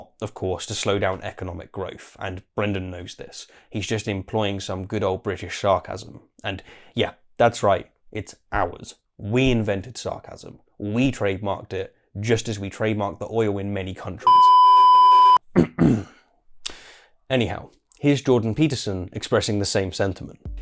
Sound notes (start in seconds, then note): 14.2 beep; 15.5 clear throat